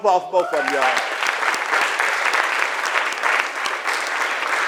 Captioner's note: applause